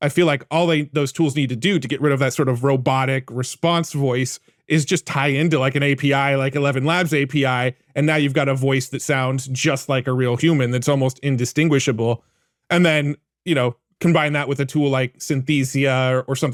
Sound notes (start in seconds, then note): none